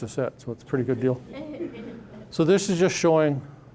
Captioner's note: audience laughing